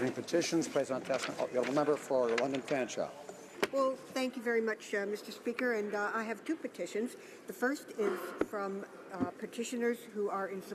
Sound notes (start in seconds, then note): 4.1 speaking French